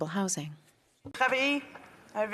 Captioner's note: speaking French